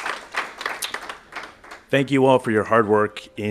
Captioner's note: applause